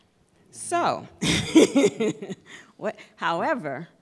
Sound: laughter

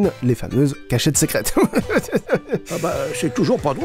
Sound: laughs again to his own pun

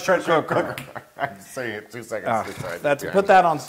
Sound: laugh

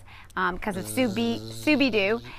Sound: buzzing

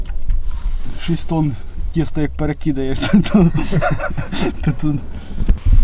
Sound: laughs

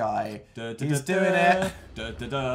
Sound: humming something I don't know; continues humming the mysterious tune

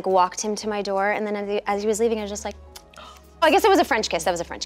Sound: kiss

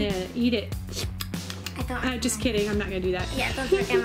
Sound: slurping

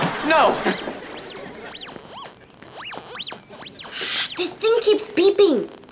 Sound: bleeps and blips

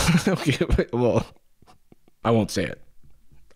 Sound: laughing

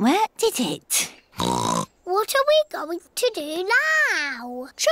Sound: oinks

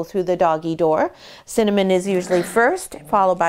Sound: puppy growls

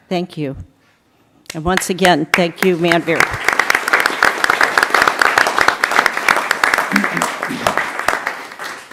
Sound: applause

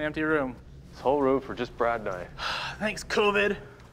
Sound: sighs

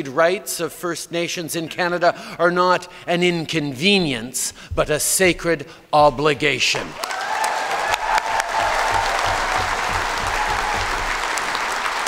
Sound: cheers & Applause

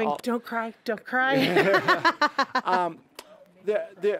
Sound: laughing

